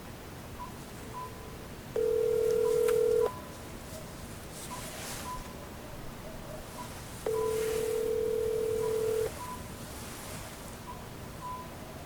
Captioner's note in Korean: 전화 연결음